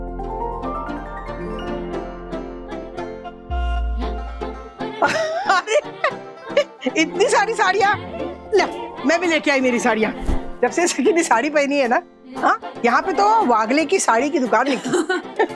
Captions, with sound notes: [soft music] [laughing] So many saris. I have brought my saris too. Ever since Sakhi started wearing saris, we have opened Wagle Sari Shop.